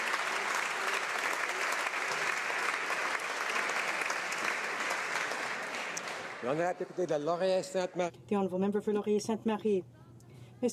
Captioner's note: some Applause